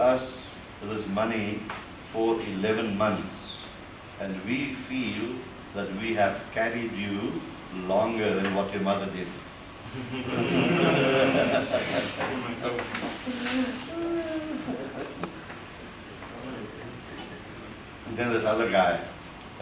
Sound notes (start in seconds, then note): 9.9 laughter